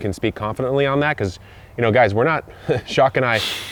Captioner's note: scoffs